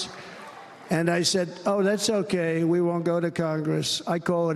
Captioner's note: cheers and applause